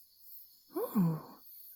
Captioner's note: purring thoughtfully